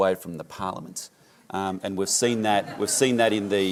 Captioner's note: laughter